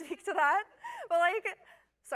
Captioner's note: laughter